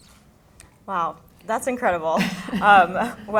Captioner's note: laughter